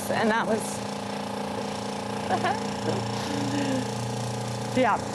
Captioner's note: loud hammering